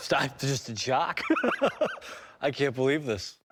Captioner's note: laughs